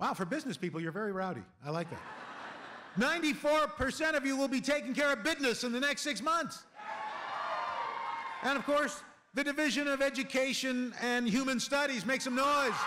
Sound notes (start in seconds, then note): 6.7 cheering